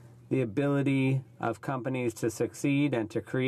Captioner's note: speaking French